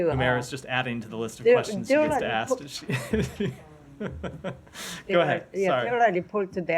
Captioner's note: laughter